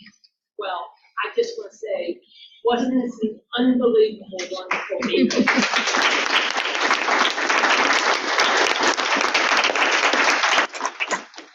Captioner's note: audience clapping